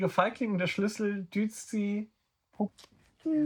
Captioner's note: speaking in German